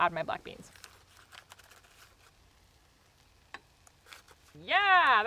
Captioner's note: package crinkling